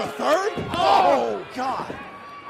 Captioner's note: crowd chatter